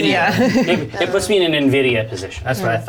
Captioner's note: all chuckle